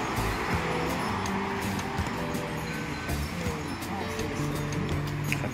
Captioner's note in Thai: ปรบมือ